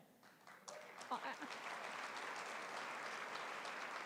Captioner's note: applause